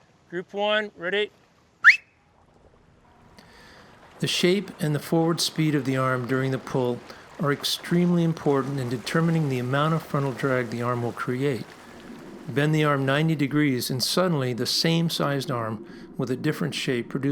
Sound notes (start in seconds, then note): 1.8 sharp whistle